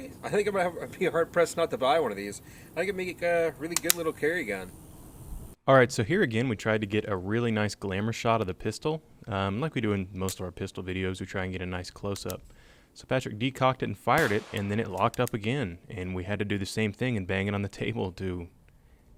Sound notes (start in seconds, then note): 5.8 voiceover